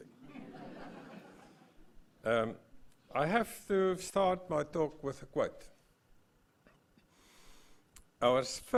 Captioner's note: laugh